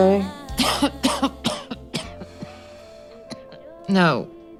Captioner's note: coughing